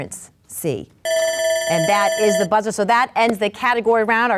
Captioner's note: bell buzzes; buzzer dings